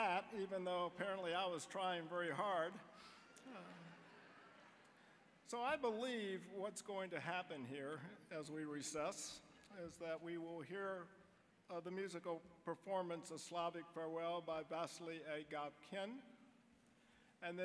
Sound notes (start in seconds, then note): 3.8 audience laughing